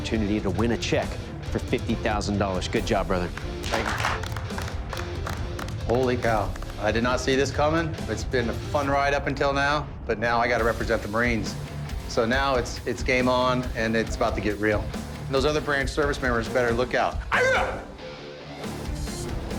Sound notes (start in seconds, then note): 3.3 applause; 17.1 yelling